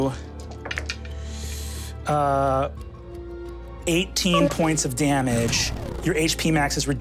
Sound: dice tapping table

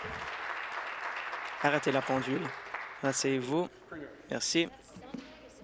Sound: applause

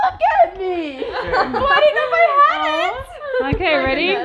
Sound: laughs

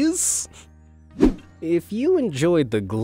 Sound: transitional wipe-screen rushing sound

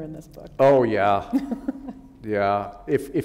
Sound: chuckle

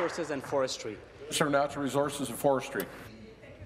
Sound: applause

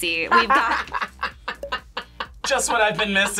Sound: laughs

